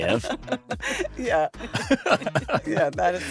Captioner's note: laughs